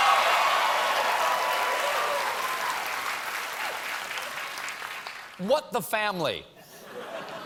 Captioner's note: applause